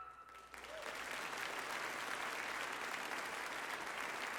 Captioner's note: audience applauding